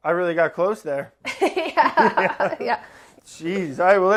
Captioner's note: laughing